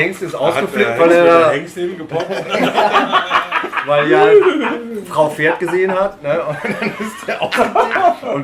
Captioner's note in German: lachen; lachen